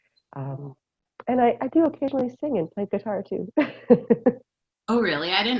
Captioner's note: laughter